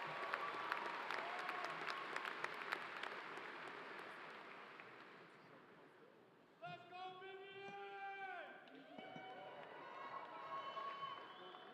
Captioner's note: applause